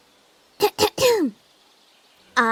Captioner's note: clears throat